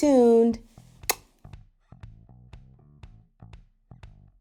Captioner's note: lips smacking